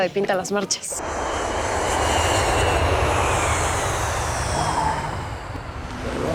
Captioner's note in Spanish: Sonido de turbinas